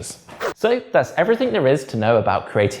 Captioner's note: page whips